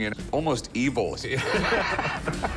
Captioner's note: laughter